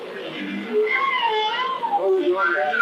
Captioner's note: ? door creaking